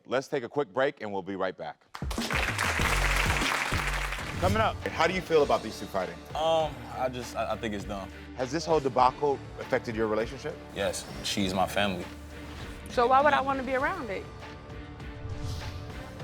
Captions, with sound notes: Let's take a quick break and we'll be right back. (upbeat music) (audience clapping) Coming up... (tense music) How do you feel about these two fighting? - I just, I think it's dumb. - Has this whole debacle affected your relationship? - Yes. She's my family. - So why would I wanna be around it?